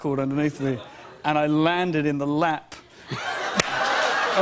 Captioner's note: laughter